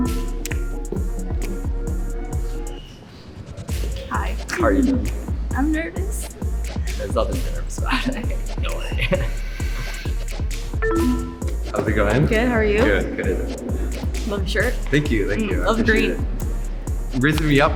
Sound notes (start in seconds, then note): 0.0 upbeat music; 0.0 electronics beep; 10.1 laughs; 10.6 upbeat music; 10.7 electronics beep